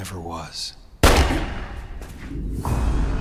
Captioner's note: gunshot banging; sinister music